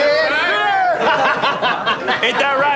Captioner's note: laughing